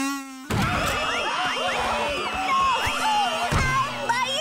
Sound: screaming

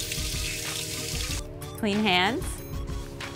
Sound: water running

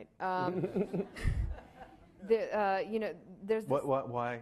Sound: laughing

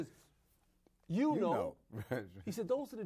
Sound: both say together

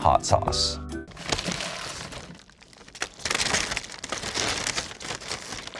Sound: hot sauce rattling

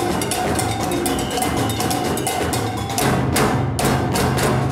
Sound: whistle blows

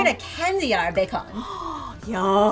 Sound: gasps

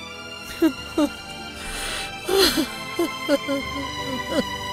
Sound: crying

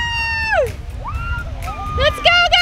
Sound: kids cheering

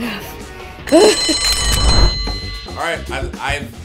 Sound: bell rings

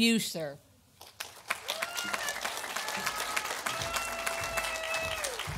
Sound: audience applauding

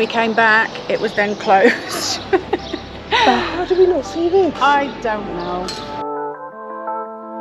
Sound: laughter

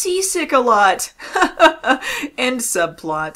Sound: laughs

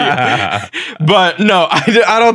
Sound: both laughing

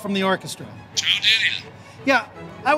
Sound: speaking in foreign language

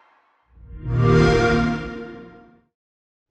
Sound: Xbox sound

